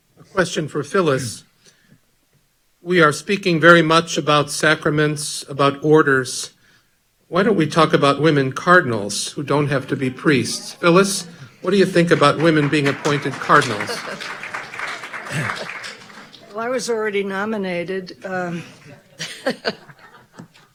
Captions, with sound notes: - Question for Phyllis, "We are speaking very much about sacraments, about orders, why don't we talk about women Cardinals who don't have to be priest?" Phyllis, what do you think about women being appointed Cardinals? (audience clapping) - I was already nominated, (laughing)